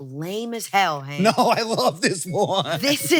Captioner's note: laughs